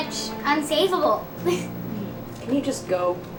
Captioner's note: girls laugh